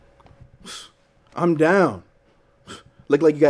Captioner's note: scoffs